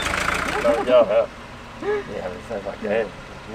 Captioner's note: laughter